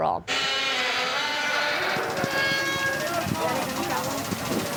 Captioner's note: heavy machinery grinding